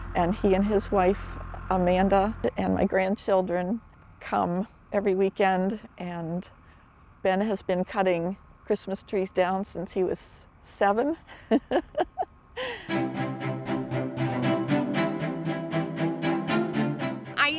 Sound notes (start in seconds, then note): 11.3 laughs; 12.8 festive holiday music